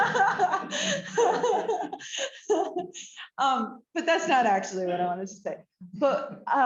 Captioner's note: laughter